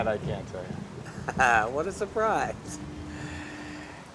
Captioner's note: laughs